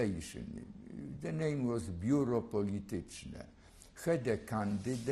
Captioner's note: non-english